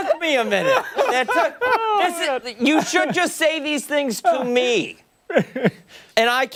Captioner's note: laughter